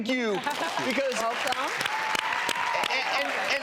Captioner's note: applause